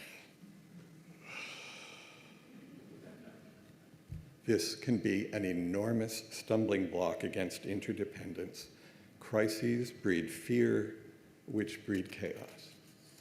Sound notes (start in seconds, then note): 1.2 deep breath